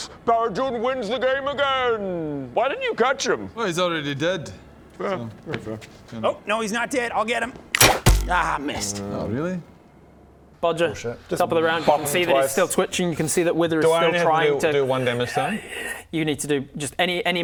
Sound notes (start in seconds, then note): 7.7 twang thunk